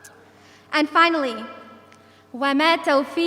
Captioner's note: speaking in foreign language